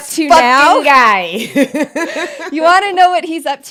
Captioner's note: both laugh